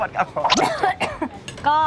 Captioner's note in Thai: แค่ก ๆ